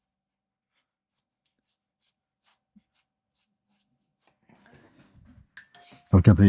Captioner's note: silence